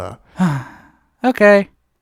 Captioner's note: sighs